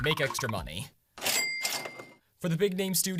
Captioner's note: cash register CHA-CHING